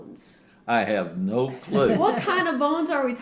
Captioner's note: laughter